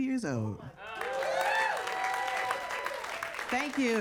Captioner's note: audience cheering and applauding